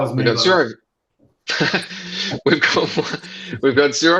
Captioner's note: laughs